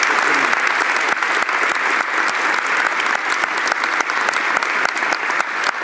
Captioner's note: applause